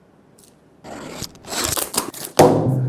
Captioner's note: foil Ripping